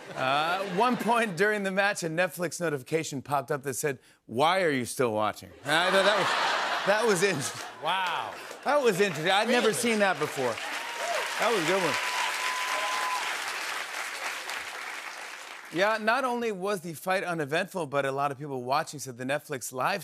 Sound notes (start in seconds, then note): 5.6 laughter; 12.5 cheers and applause